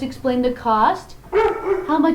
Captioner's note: puppy dog voice; bark